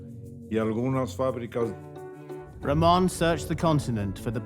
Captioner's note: in English